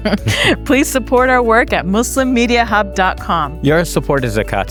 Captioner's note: chuckles